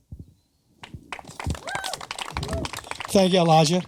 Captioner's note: audience applauding